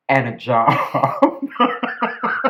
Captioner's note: laughter